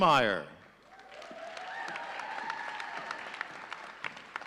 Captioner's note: audience cheering